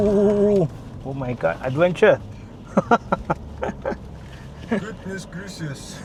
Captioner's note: laughter